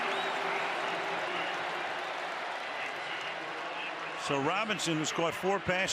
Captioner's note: cheering